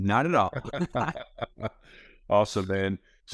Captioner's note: both laughing